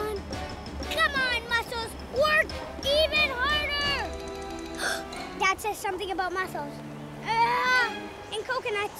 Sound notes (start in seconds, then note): 4.8 gasp